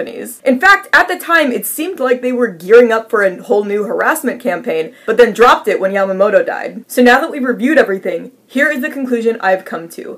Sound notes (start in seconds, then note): none